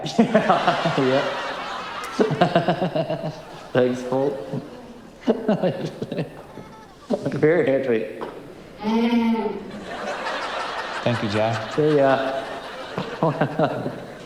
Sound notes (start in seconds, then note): 2.3 cackles; 5.1 laughs; 8.9 llama bleats; 13.4 laughs